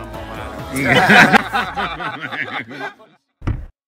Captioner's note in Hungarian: nevetés